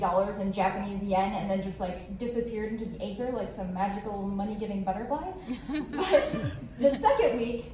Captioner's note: laughter